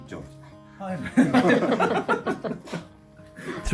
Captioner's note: laughs